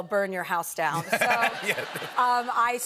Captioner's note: laughter